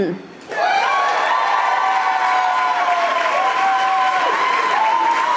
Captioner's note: audience applauding